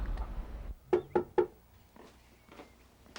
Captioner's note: knock on door